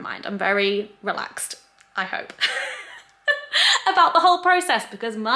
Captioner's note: laughs